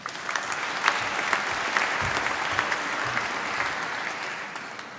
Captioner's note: applause